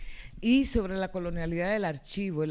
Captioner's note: speaking spanish